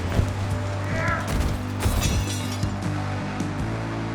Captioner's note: brigands grunting